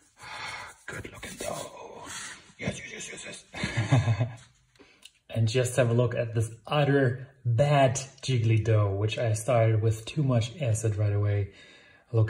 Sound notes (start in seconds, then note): 2.5 chuckles